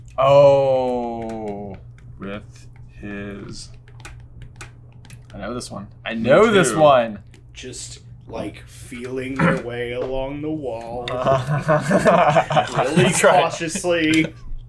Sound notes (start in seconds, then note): 11.1 laughing